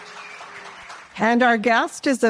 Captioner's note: audience applause